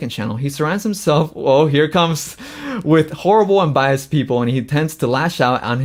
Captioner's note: laughs